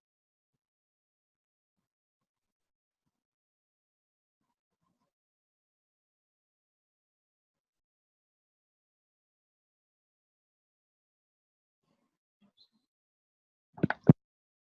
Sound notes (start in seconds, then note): 6.0 audio muted